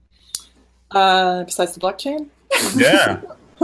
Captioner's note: laughing